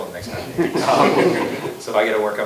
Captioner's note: laughter